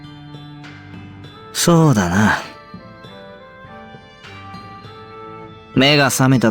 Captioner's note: sigh